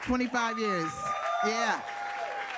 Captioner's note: audience cheering